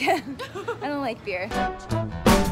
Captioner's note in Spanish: Laughter